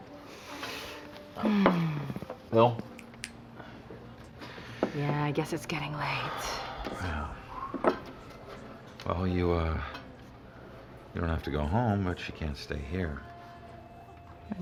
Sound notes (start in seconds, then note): 2.8 snaps fingers